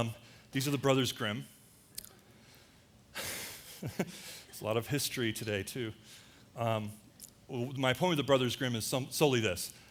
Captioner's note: laughter